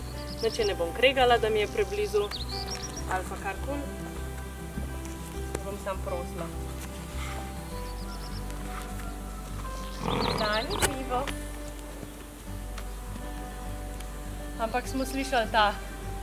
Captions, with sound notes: I won't punish her for being too close, or whatever, I'll just ask her... iiinteresting [Keza: snorting sound] But we could hear her snort